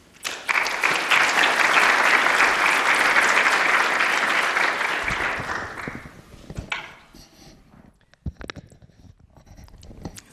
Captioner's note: applause